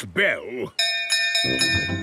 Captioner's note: bell chimes